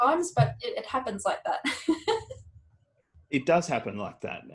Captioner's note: laughs